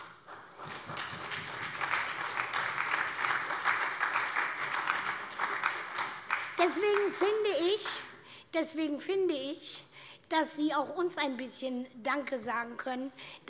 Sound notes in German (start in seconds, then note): 0.0 Beifall bei der SPD